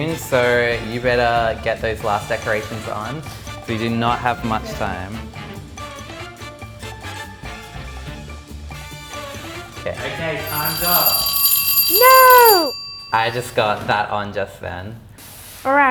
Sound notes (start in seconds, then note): 5.6 playful music; 10.4 ringing sound